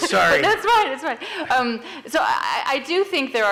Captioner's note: laughs